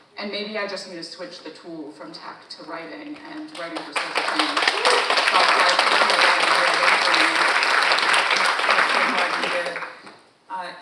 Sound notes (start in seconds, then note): 3.5 audience applauding; 4.4 audience member cheers